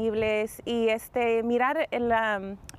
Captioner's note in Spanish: habla en ingés